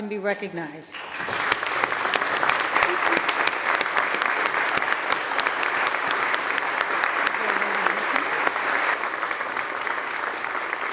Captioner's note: applause